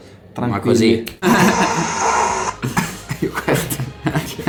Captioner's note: laughters